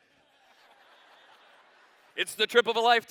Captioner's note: laughter